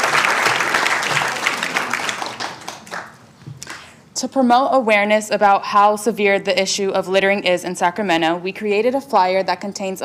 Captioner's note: applauding